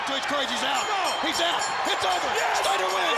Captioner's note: bell rings